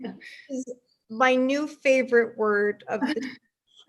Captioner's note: laughs